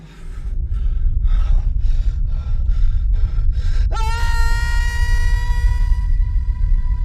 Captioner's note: deep rumble echoes; Tim screams